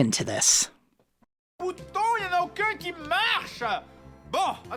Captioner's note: angry French noises